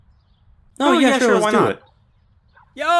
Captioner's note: sounds of agreeing